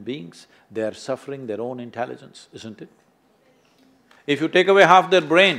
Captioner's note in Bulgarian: аплодисменти